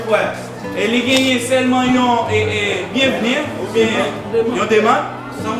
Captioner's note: speaking in foreign language